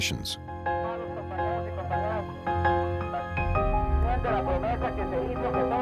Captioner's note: speaking in foreign language